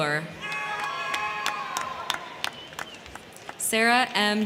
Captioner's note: crowd cheering; crowd clapping